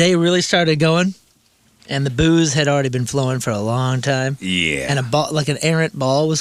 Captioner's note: none